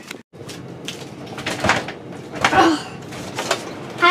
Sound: aggravated noises

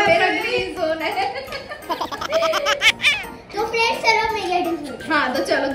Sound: laughter

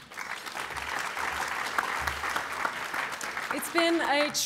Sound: applause

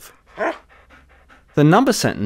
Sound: dog barks

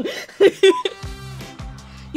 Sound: laughing

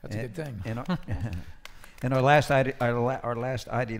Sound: applause

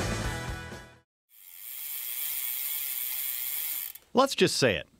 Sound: gears spinning

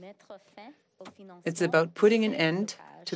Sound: speaking French

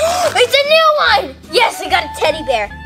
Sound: gasp

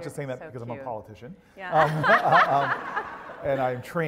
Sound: laugh

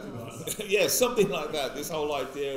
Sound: laughs

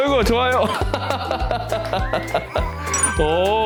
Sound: laughing out loud

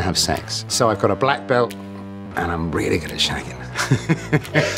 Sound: laughs

